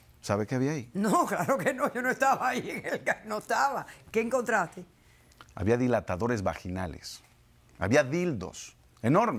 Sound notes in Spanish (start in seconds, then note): 6.2 Ríe